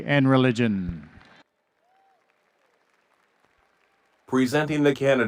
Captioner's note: audience cheering and applauding